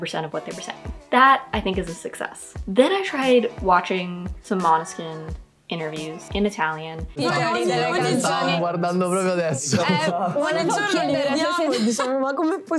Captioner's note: chaotic Italian